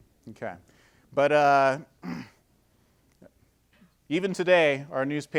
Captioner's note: clearing throat